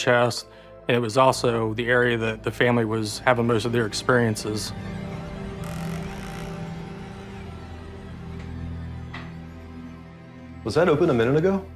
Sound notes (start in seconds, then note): 5.2 door creaking